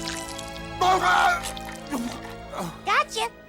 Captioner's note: Earl groaning; Earl yelling